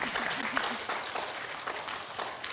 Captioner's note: applause